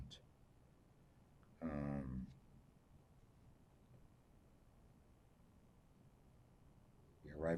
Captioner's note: pauses 6 seconds